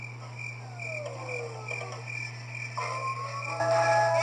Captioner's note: wolf Howl